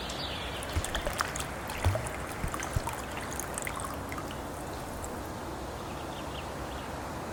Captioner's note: water pouring; water bubbling